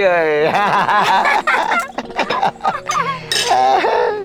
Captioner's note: both laughing